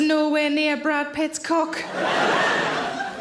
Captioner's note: audience laughing